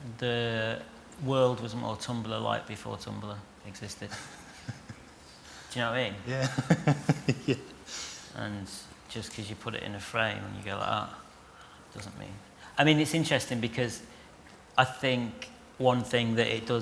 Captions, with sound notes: The world was more Tumblr-like before Tumblr existed. (LAUGHTER) Do you know what I mean? [LAUGHING] Yeah! And just because you put it in a frame and you go, "Ah..." doesn't mean... I mean, it's interesting, because I think one thing that it does